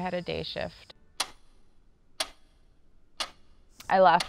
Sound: clock ticks

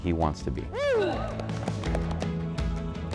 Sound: applause

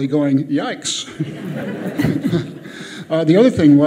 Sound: audience laughs

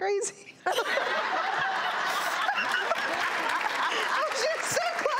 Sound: crowd laughing

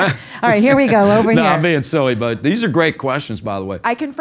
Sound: laugh

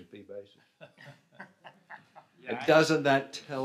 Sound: laughs

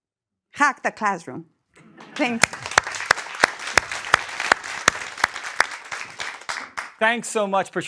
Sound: applause

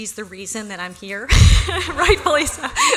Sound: laughter

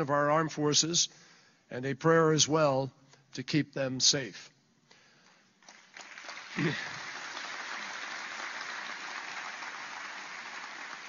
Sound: applause

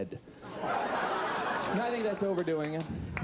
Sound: audience laughing

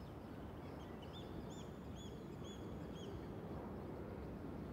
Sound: birds calling, waves rolling

